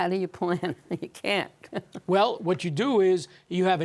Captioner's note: chuckles